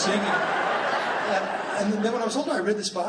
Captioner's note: laughing